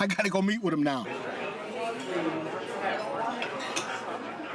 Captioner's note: all chattering